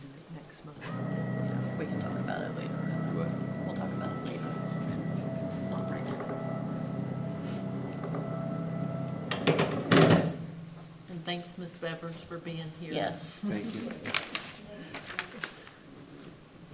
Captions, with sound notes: - We can do it next month, we can talk about it later. We'll talk about it later. (machine motor humming) (machine thuds) And thanks Ms. Beavers for being here. - Yes. - Thank you.